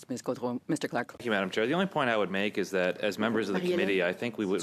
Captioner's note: speaking French